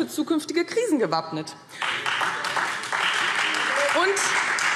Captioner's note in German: Beifall Freie Demokraten